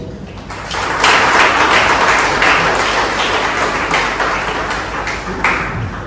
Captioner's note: clapping